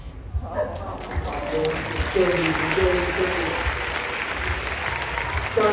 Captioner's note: applause